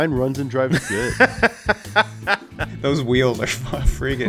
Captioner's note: laughs